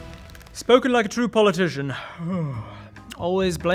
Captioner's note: yawn